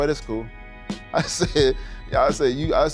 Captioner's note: laughing